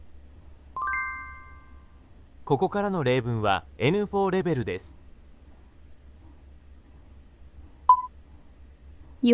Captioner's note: Japanese audio